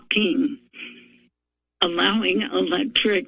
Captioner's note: pause